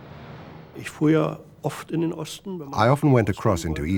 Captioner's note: speaking german